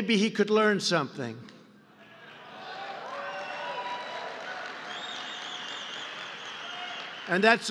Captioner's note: applause